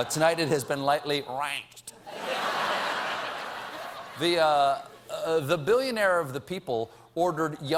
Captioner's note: laughter